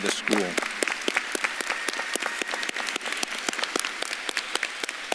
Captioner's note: audience claps and cheers